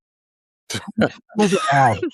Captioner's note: chuckling